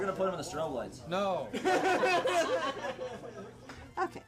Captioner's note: laughing